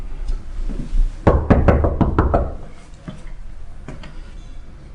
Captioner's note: knocking